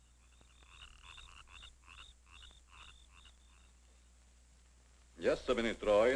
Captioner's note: crickets chirring; frogs croaking